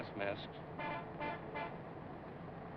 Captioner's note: honking